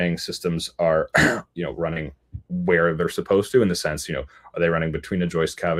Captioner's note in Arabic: يُصفّي حلقه